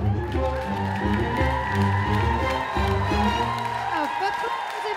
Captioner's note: applause